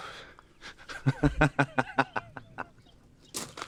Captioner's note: man laughs